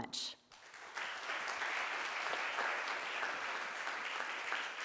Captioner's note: crowd applauds